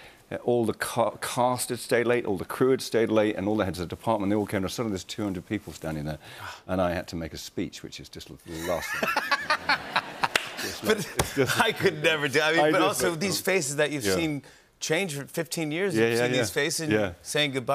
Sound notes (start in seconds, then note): 8.5 laughter